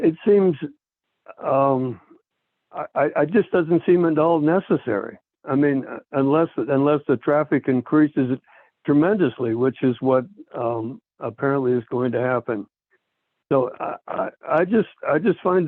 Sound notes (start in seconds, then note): 0.0 by phone; 3.3 by phone; 13.8 by phone